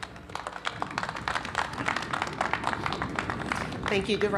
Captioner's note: applause